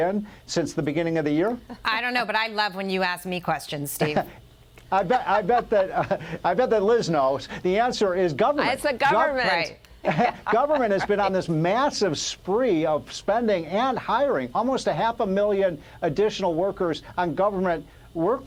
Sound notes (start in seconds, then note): 10.0 laughter